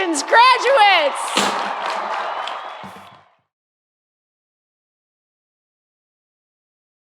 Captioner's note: audience cheering; audience applauding